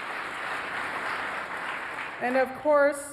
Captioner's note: applause